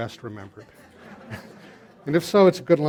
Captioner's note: laughter